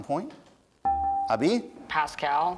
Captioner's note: dinging